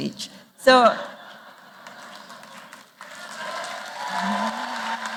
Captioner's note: applause